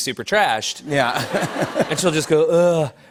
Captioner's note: laughter